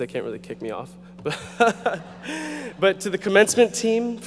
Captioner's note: audience laughing